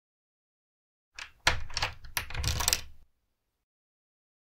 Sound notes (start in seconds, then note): 1.1 sound of door lock